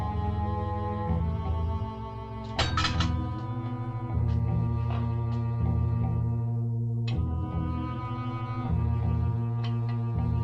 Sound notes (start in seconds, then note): 2.5 pipe clatters